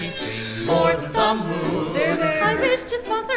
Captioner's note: baby crying